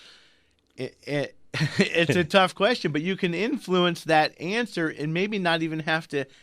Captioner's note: both laugh